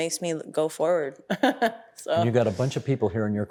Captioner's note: chuckling